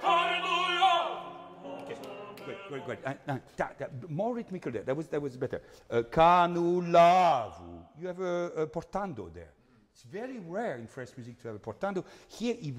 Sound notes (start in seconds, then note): 7.2 speaking in foreign language